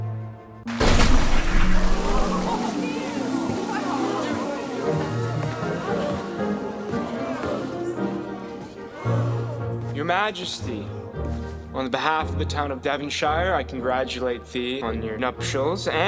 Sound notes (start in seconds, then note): 0.7 sparks flare; 1.3 crowd murmuring